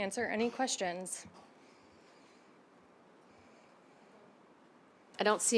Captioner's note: silence